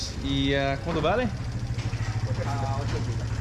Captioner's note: speaking Spanish